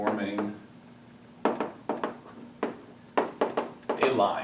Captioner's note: chalk clicking